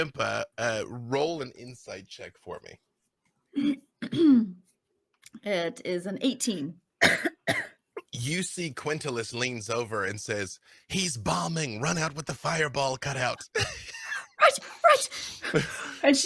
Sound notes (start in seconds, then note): 4.0 clears throat